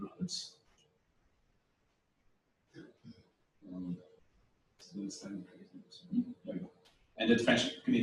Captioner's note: pause